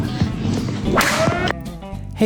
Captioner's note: smack/Siren